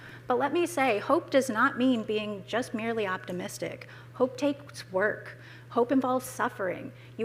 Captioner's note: none